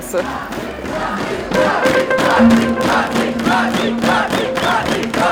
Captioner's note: crowd cheering "Roxi"